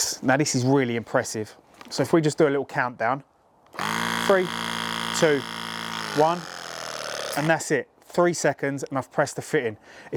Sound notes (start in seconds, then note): 3.7 press gun vibrates loudly